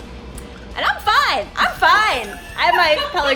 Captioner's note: laughing